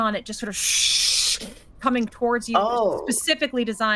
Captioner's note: shushing